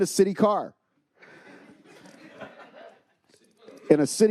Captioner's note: attendees laughing